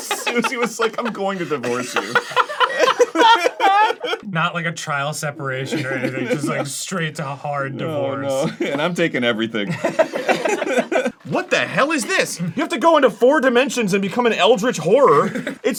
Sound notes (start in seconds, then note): 2.4 everyone cackles